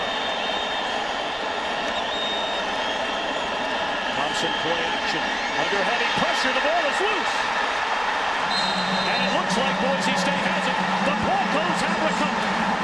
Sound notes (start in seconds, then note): 0.1 crowd cheering; 8.4 whistle